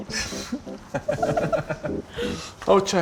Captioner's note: both laugh